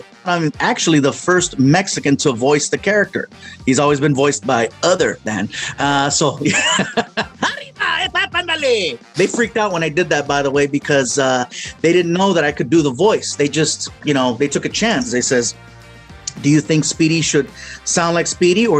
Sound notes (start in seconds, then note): 6.3 laughs; 7.1 speaking spanish